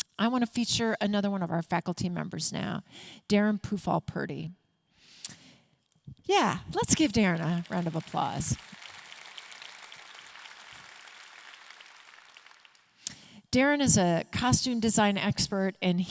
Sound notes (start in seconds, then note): 8.8 audience clapping